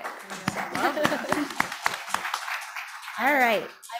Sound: audience and panel clapping

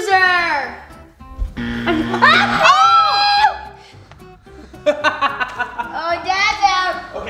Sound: laughing; yelling

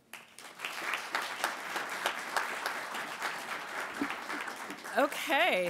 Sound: applasue

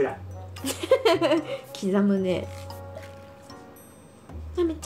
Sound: laughs

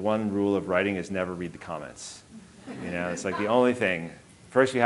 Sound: audience laughing

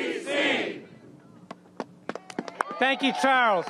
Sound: applause

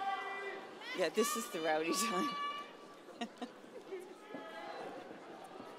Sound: laughs

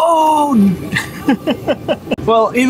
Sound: laughs

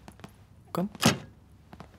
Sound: door shuts

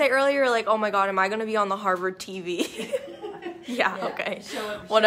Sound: laughs

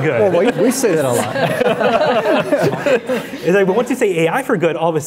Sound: laughing

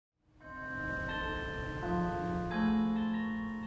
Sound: bells chiming

